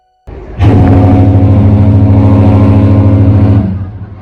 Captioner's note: 3 Blasts of the ship's horn